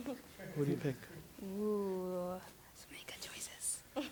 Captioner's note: whispered